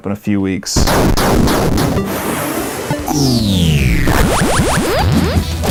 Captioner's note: classic video game sound effects